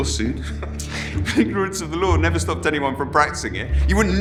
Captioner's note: chuckles